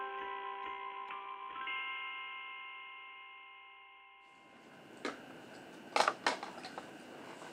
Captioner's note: appliances whirring; objects clattering